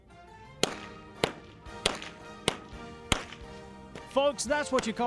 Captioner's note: whip Popping